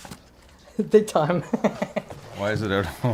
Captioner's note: laughs